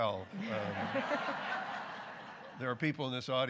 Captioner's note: audience laughing